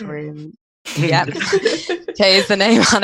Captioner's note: all laughing